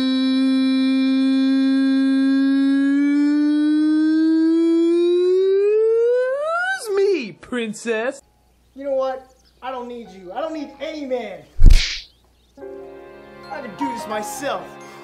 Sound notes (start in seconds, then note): 11.6 slap noise